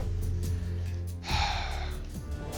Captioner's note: sighs; tense music